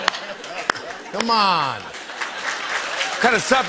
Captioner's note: laughter; applause